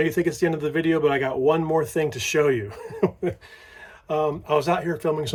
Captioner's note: chuckling